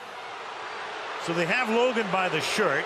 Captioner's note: booing